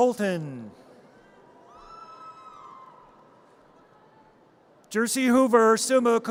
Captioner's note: audience cheers